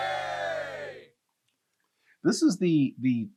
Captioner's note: cheering